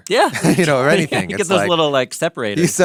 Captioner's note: both laughing